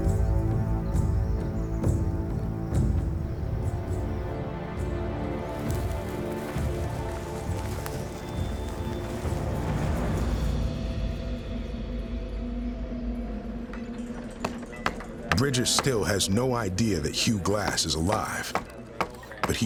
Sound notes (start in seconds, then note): 0.2 tense music; 7.0 footsteps